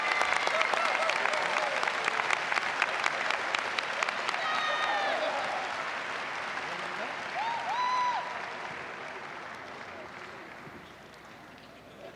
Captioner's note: applause